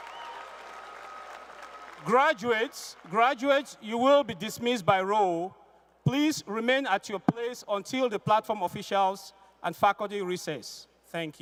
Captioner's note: cheers and applause